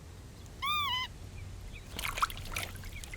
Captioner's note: bird chirps